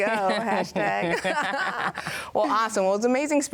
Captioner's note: laugh